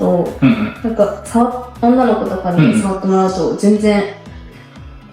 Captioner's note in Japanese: 咳払い